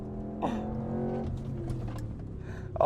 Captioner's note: engine revving